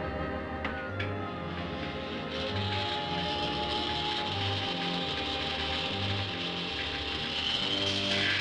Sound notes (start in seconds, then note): 1.3 machine hissing